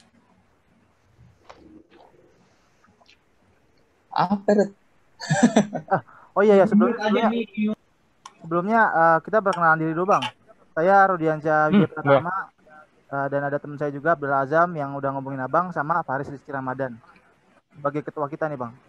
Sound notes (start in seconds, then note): 5.2 laughing